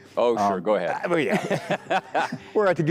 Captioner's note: laughs